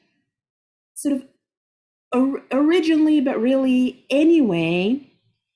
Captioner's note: speaking Arabic